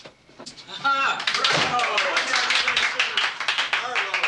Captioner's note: people clapping